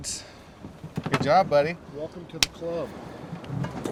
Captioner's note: slapping five